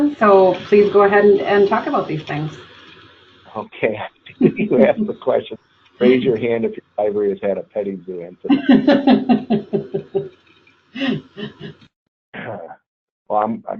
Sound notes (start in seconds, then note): 8.3 both laugh